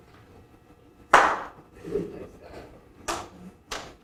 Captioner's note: a single clap; several claps